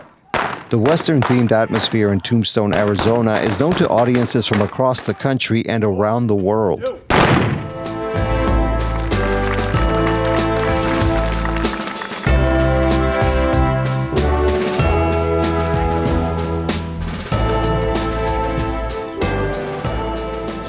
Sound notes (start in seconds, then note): 7.1 gun shot. Applause; 12.6 western music